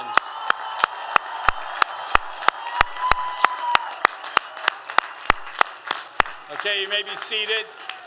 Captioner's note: applause and cheers